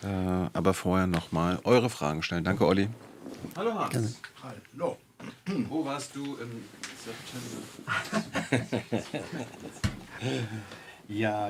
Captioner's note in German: gelächter